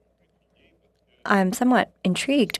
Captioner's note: speaking French